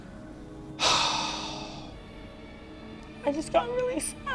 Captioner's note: sighs